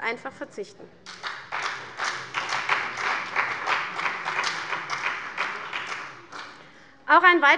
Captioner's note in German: Beifall bei der CDU und dem BÜNDNIS 90/DIE GRÜNEN